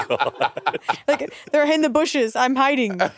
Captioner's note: Monét laughing; all laughing